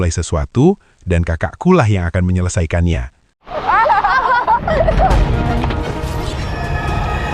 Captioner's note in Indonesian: tertawa